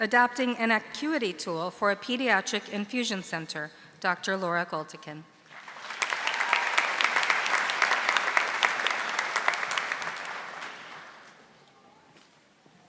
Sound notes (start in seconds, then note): 5.5 audience applauding